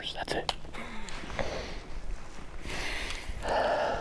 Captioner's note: laughing